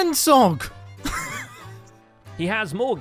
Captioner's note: laughs